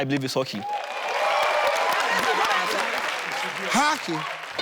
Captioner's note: audience cheers